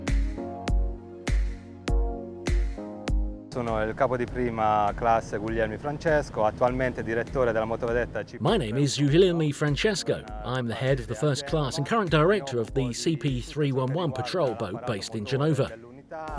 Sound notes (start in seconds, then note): 3.9 speaking in foreign language